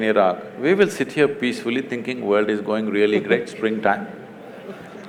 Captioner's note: Barkha Dutt laughs; laughter